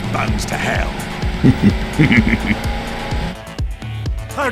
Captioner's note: sadistic laugh